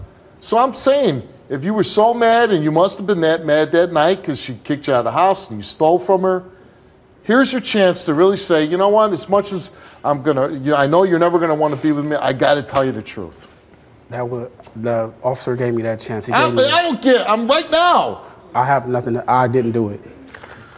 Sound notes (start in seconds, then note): none